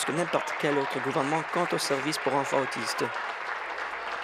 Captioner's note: applause